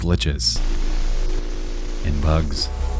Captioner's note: distorted buzzing